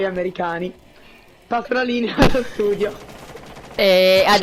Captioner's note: laughs